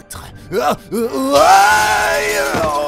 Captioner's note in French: Vitre qui se casse